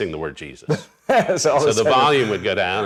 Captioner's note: laughs